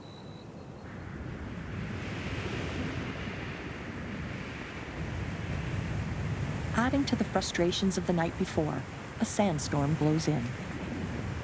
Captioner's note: wind blowing